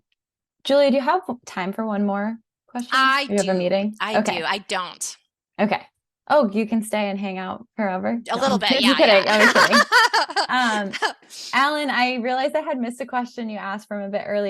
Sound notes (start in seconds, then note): 8.3 laughs